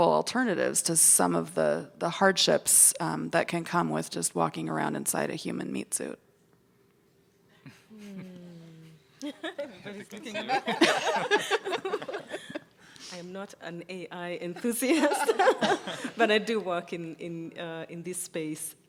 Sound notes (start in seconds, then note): 10.0 panel laughing